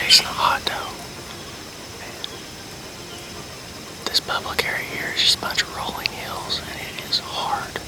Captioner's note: whispering